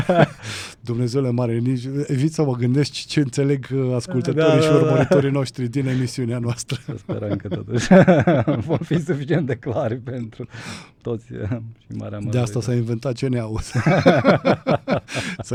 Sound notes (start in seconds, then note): 0.0 laughter; 6.6 laughter; 13.6 laughter